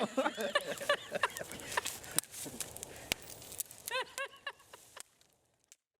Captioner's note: laughter